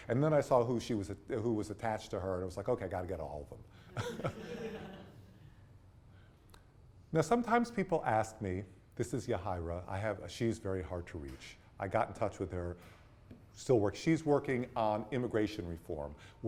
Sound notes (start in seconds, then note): 3.9 students laugh